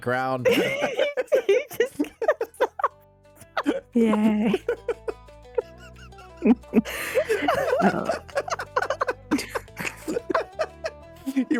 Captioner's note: laughter